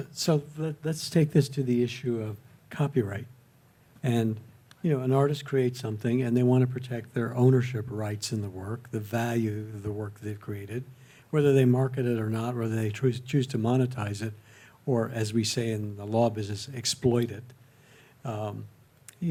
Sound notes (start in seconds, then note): none